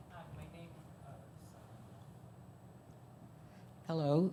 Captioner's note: speaking off mic